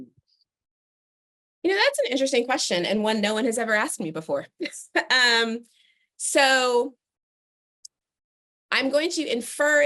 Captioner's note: laughter